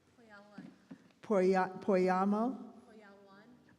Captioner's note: stammering